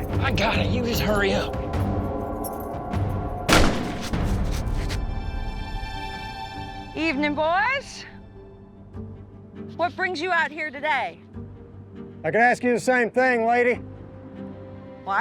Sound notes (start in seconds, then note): 3.5 gunshot nearby